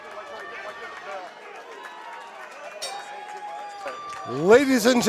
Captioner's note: applause; bell rings